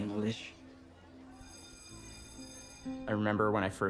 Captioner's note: school bell rings